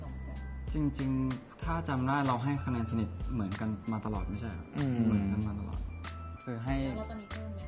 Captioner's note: Build hums in agreement